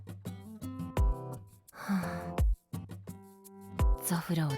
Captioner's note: sigh